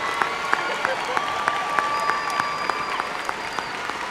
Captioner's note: applause